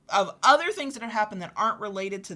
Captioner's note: none